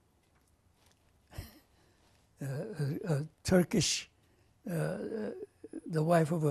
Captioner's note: laughs